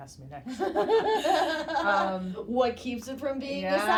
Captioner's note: both laughing